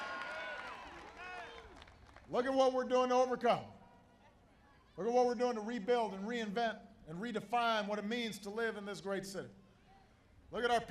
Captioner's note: applause